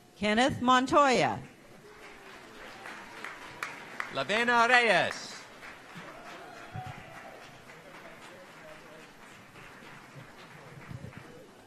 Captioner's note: applause